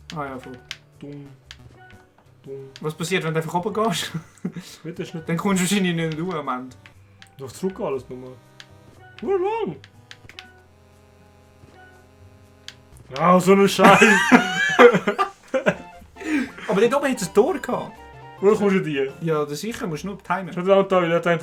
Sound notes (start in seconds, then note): 4.1 laughs; 13.8 laughter